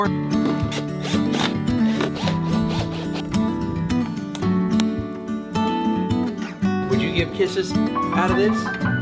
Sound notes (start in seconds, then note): 0.2 mellow music; 0.5 power screwdriver working; 5.2 mellow music